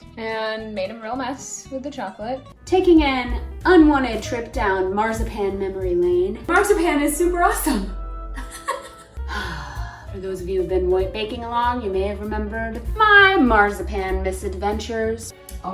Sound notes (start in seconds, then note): 8.4 giggles; 9.1 sighs